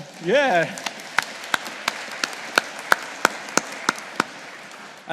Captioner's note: audience applauding